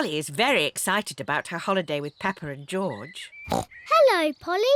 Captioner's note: oinks